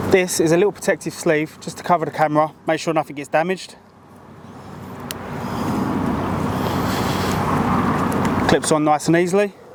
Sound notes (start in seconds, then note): 3.8 traffic whooshing; 5.0 sleeve clicks